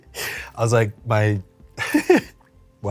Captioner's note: laughs